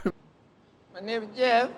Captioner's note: laughter